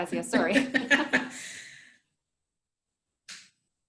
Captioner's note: chuckles